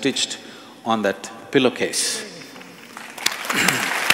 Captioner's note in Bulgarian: аплодисменти